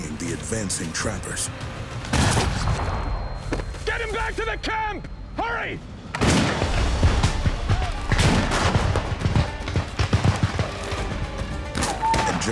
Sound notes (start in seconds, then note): 2.1 fires rifle; 6.1 gunshots